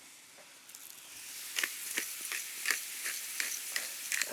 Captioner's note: pepper mill grinding